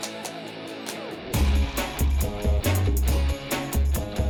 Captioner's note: echoes